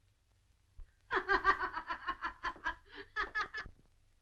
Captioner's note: laughing